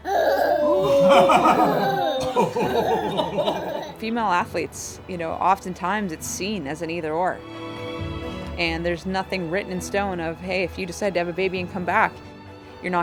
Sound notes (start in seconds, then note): 0.0 laughs; 0.8 laughter